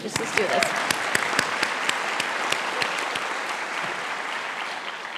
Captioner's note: audience applauding